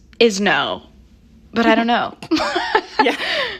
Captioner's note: laughter